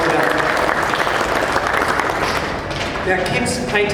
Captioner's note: applause